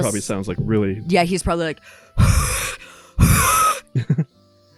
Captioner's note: heavy panting; titters